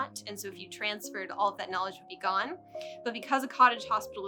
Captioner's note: none